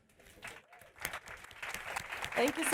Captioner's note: applause